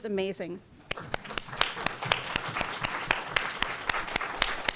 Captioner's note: audience applauding